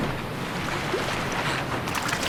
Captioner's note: splashing